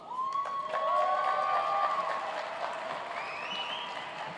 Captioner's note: cheers and applause